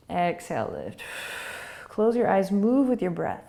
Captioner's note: exhaling